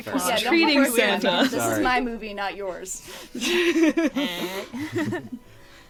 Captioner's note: laugh